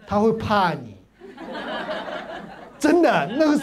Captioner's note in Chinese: 哈哈哈